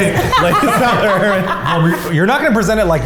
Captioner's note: all laughing